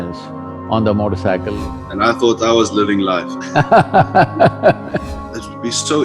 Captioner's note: Sadhguru laughs